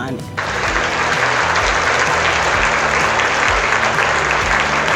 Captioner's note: audience applauding